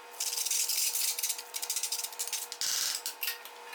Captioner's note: metal scraping